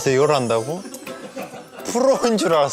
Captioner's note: haha